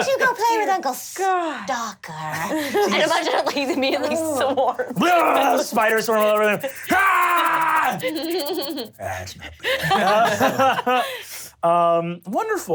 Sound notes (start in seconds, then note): 4.9 yells; 9.6 laughs